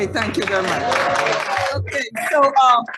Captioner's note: audience applauding